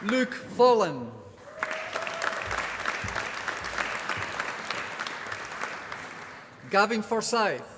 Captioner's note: applause